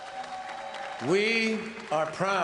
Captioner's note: applause